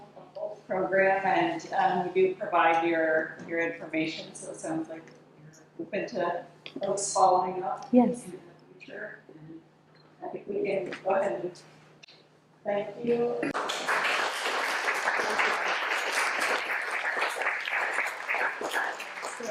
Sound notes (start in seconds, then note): 13.5 audience applauds